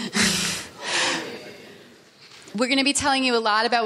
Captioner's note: laughing; people chattering